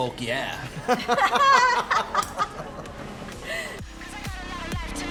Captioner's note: laughter